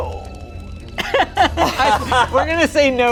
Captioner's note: everyone laughs